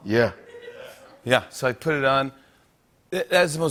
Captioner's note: laughter